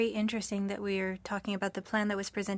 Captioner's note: speaking french